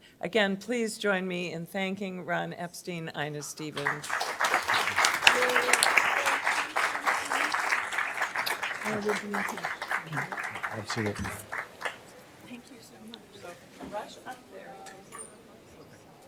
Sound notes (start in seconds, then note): 3.7 applause